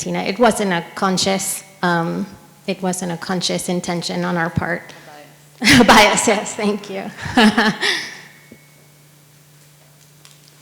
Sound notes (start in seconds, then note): 5.6 laughs